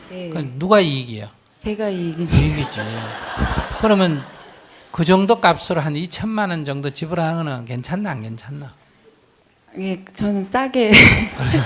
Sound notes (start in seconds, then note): 2.2 audience Laughter; 10.9 questioner Laughter